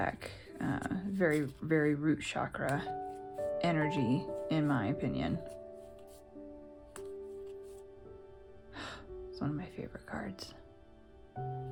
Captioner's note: sigh